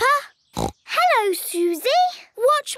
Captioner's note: snorts